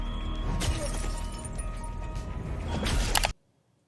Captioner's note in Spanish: sonido de hacha